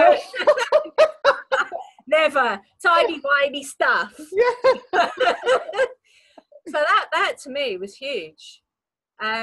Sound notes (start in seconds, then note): 0.0 laughing; 4.2 laughing